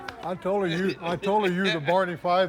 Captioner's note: laughs